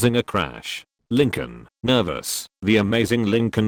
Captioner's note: nervous